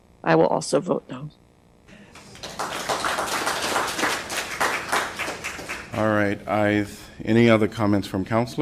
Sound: applause

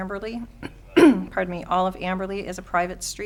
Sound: clears throat

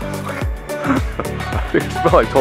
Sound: laughs

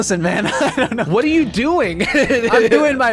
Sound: laughing

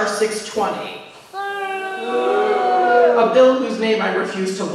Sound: boos

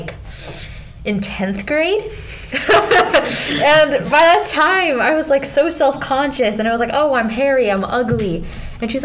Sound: laughing

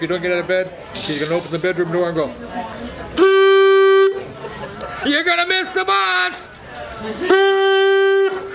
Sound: blows horn

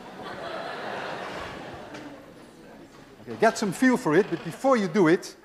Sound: class laughs

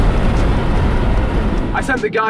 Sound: engine raving

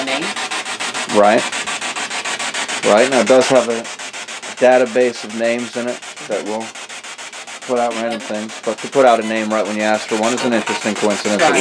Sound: chatter

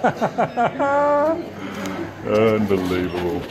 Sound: laughs

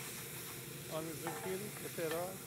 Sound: grill sizzling

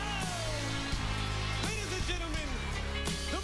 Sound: applause

